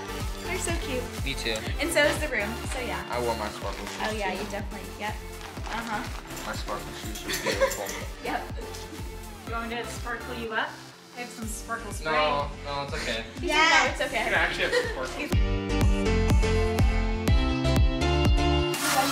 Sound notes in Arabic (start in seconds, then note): 7.2 تضحك; 15.6 موسيقى البوب المبهجة